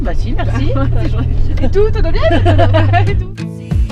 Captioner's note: laughter